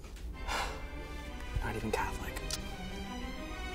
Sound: sigh

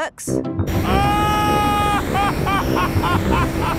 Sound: excited screaming, laughing

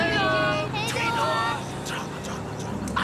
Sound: whispering

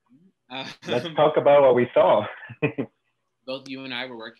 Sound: laughs

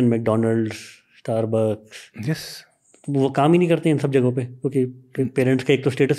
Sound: speaks in Hindi

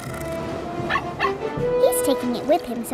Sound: barking

